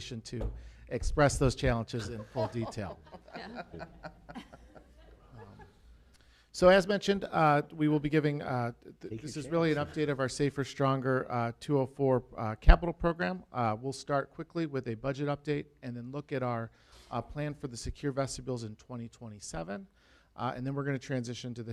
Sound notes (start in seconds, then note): 3.4 laughter